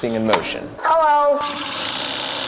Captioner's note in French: Voix robotique; ventilateur vrombissant